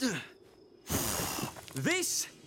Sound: blowing

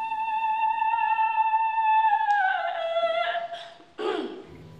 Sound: singing high notes; voice breaks slightly; clears throat

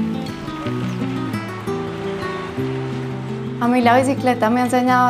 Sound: river water running; foreign language

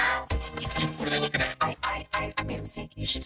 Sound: in normal voice

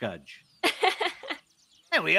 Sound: laughs

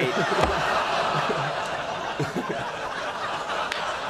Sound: audience groaning; audience laughing

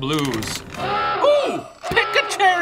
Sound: buzzer ringing

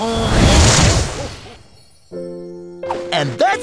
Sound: echoing

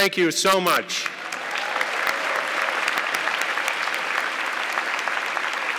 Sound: audience clapping

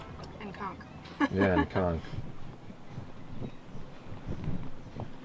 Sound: laughs

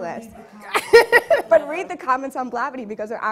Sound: laughing

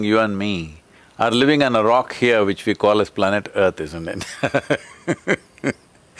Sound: laughs

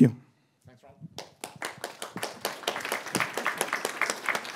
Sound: applause

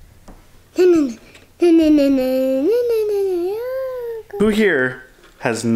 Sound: vocalizing

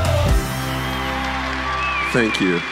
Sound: applause

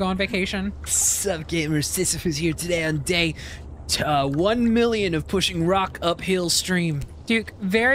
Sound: gamer Voice

